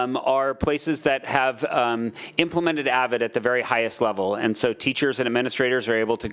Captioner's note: none